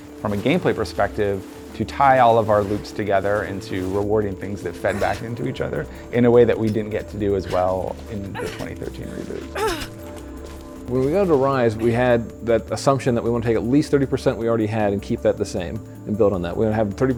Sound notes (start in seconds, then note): 9.9 Lara grunting